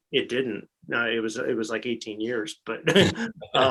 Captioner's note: laughs